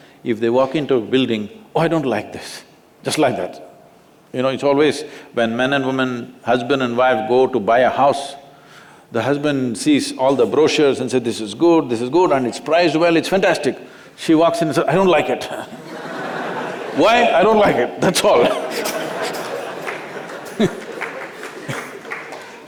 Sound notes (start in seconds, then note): 15.7 laughter